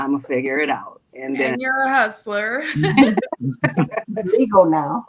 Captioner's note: laughs